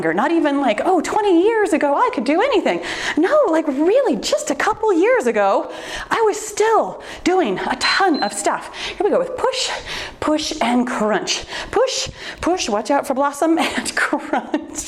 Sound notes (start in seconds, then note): 7.8 timer beeps; 14.2 laughs